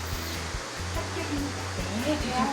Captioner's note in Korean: 기계음